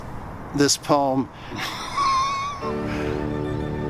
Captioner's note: laughs